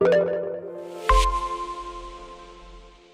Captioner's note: pinging echo